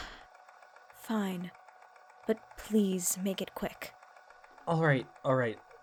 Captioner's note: sighs